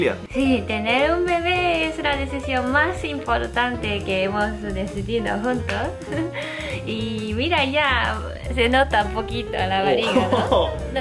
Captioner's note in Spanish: ríe